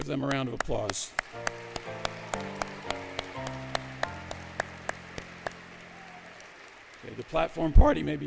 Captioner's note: applause, Music